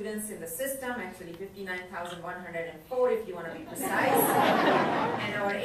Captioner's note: crowd laughs